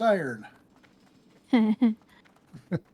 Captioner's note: chuckles